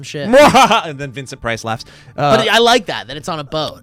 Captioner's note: laughing